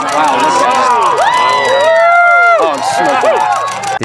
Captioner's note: other people cheering in the background